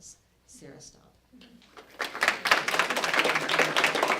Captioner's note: applause